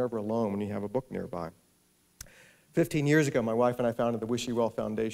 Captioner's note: none